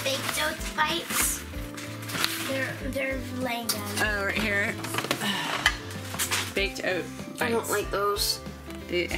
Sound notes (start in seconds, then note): 5.1 clanging; 5.1 sighs